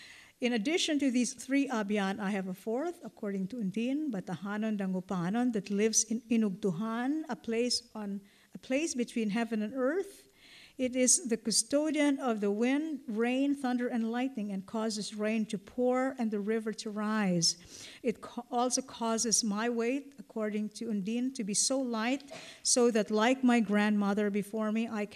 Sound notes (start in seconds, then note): 0.0 non-english; 4.5 non-english; 6.7 non-english